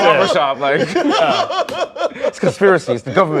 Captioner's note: laughter